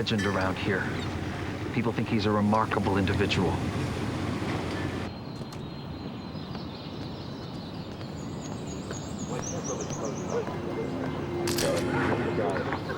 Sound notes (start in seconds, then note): 4.2 door closes; 11.4 camera shutter clicks